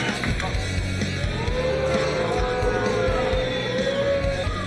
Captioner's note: crowd jeers